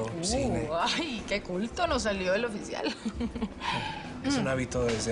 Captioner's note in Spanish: Ríe